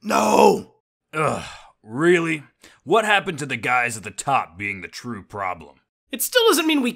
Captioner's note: exasperated